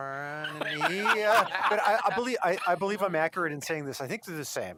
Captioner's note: laughter